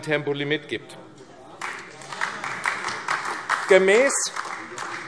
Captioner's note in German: Beifall AfD